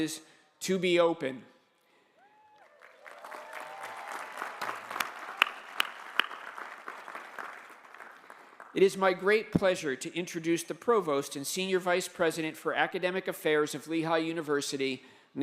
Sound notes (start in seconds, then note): 2.2 applause